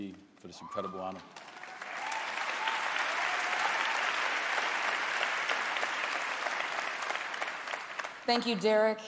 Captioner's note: applause